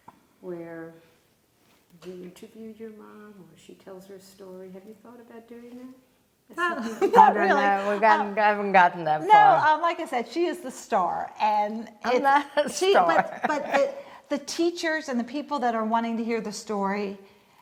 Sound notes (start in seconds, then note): 6.6 laughing